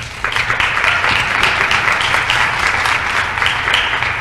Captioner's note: applause